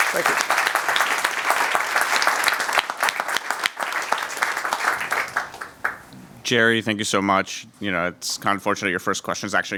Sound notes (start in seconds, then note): 0.0 cheers and applause